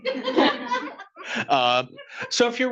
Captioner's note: attendees laughing